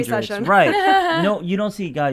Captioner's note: laughs